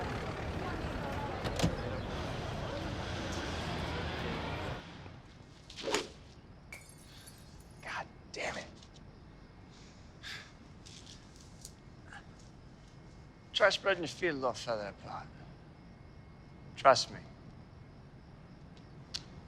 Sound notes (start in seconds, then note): 4.4 club whooshing; 6.7 glass shattering